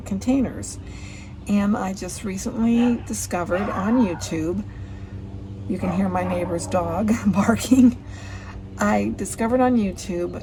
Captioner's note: you can hear my neighbor's dog barking